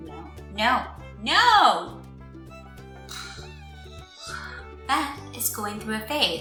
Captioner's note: balloon deflating noise